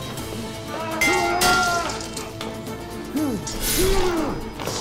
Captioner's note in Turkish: Bağırma sesi; Kılıç sesleri